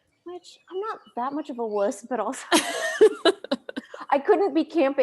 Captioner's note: both laugh